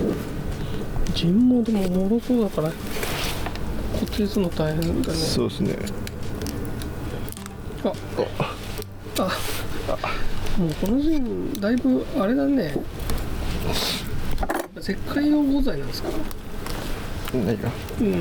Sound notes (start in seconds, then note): 8.6 Sound of JIN cracking